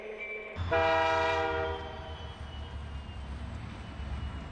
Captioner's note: horn blowing